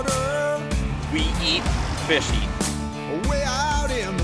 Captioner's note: voiceover